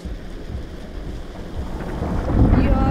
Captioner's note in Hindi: बिजली गिरने की आवाज